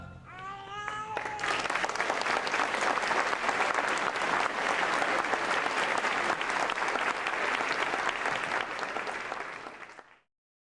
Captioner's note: applause